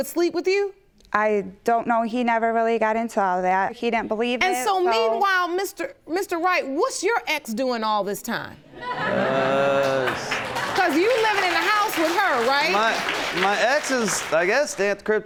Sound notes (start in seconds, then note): 8.8 audience laughs